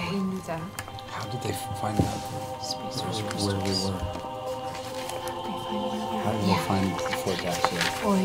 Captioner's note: quietly